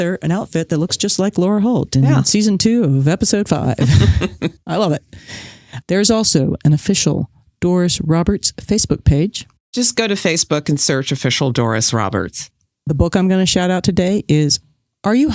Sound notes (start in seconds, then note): 3.8 guffaw; 3.8 laughs